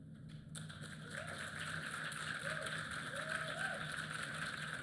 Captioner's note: applause